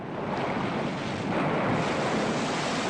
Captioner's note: man shouts orders